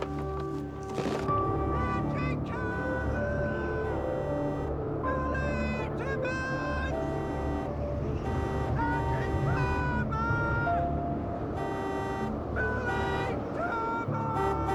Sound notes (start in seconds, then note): 11.4 honking